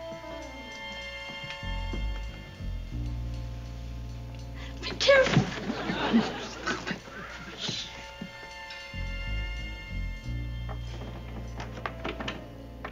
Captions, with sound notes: Be careful. (WHISPERING) Will you stop it? [SUSPENSEFUL MUSIC]